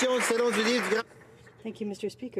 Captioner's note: speaking French